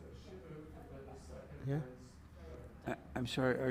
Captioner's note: faintly speaking